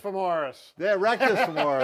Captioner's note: laughs